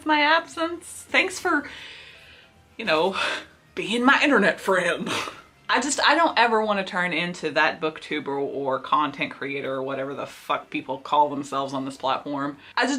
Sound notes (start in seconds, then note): 4.9 sarcasm